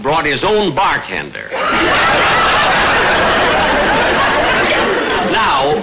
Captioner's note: audience laughter